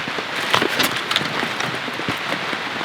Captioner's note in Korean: 와르르